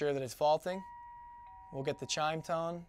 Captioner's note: chime